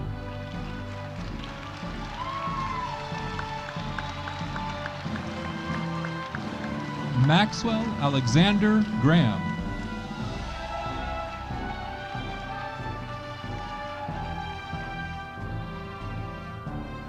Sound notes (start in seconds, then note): 0.9 audience cheering; 10.2 audience cheering